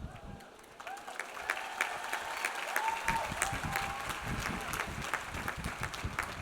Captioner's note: audience applauds; audience cheers